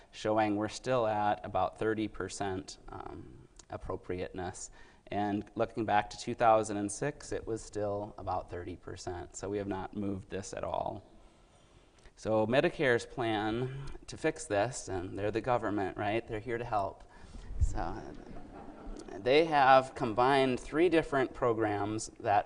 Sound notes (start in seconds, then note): 18.0 audience laughing